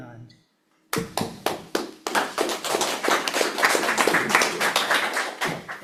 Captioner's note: audience applauds